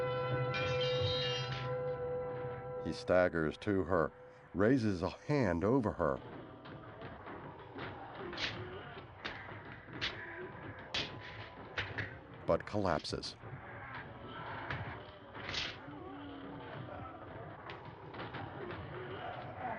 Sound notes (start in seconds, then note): 0.1 metal clatters; 5.6 groaning in distance